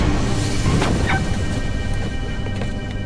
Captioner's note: dog bark